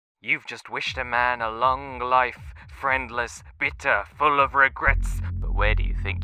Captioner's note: voice on phone